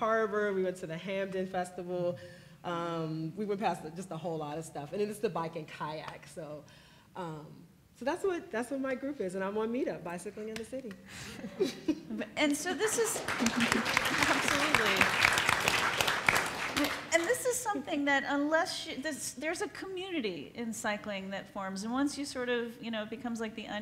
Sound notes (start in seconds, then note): 16.3 applauds